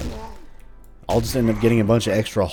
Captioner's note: whack